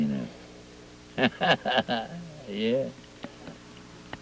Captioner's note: laughs